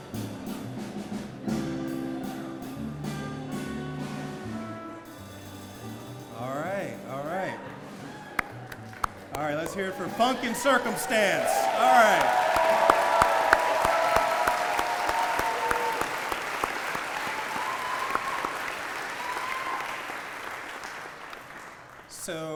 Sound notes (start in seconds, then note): 0.0 music and applause quiet down; 10.7 claps